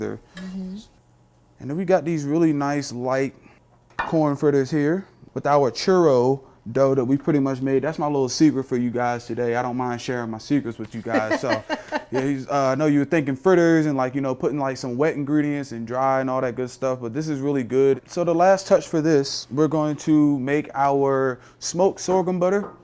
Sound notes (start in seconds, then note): 11.0 laughing